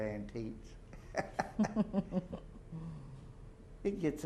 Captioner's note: laughter